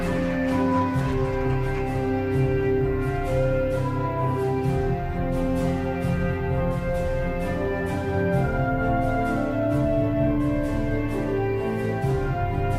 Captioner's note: applause